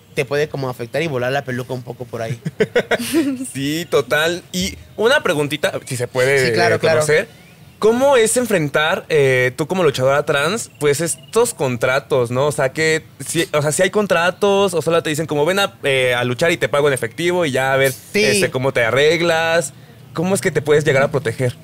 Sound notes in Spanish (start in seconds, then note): 2.2 Risas